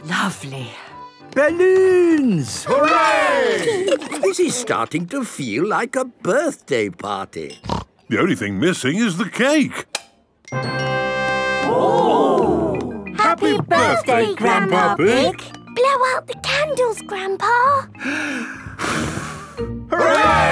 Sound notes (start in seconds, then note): 10.3 click; 18.0 breathes deeply, blows